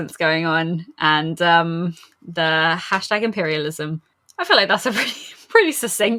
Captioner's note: laughs